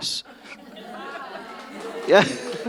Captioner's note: attendees laughing